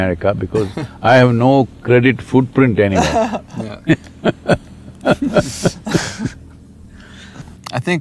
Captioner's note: laughter